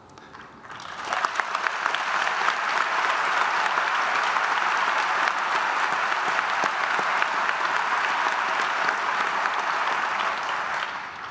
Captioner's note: applause